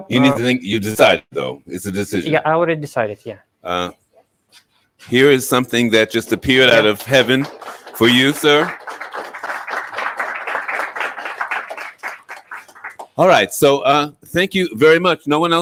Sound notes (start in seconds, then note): 9.2 audience applauding